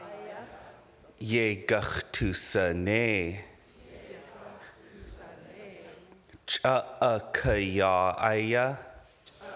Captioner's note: speaking indigenous language